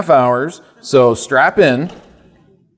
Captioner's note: audience laughing